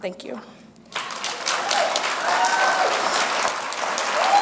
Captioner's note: applause